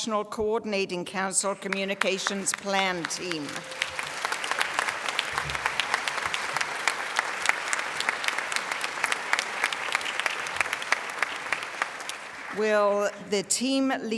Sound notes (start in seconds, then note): 9.1 applause